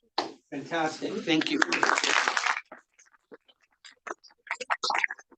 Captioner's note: audience applauding